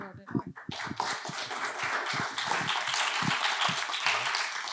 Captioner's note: applause